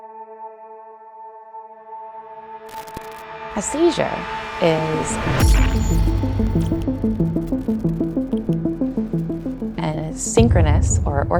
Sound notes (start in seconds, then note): 5.2 electronic crackling